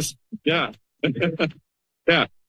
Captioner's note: laughter